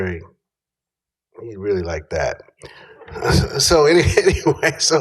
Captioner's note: laughter